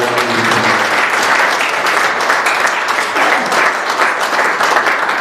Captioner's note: applause